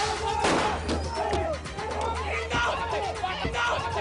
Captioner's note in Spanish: Disparos; Gritos